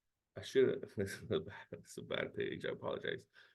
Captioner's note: chuckles